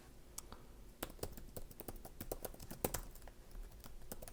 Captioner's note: keyboarding